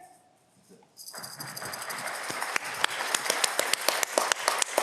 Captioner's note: audience clapping